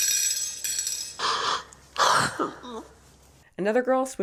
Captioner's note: candy rattling; crying